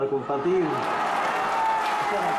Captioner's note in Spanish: aplausos-ovación